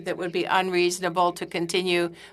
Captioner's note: speaking in French